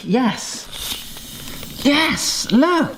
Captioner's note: inhaling